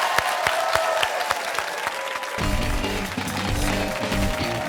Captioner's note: cheers and applause